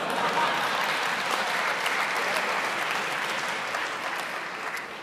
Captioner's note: laughing and applauding